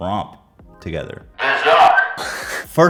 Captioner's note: Zucc hiss